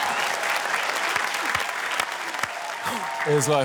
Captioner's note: applause